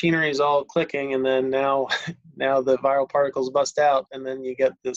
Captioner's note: laughs